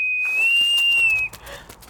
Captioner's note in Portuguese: bater de asas